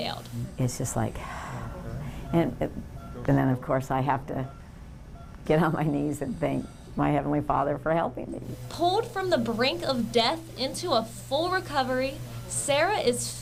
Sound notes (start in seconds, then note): 1.2 ahh, sigh